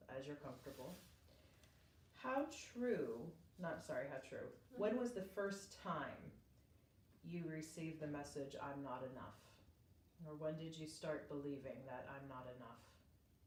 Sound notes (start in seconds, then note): none